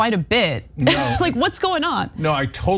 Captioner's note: laugh